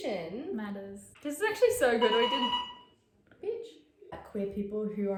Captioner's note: buzzer rings